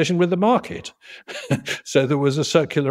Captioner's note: laugh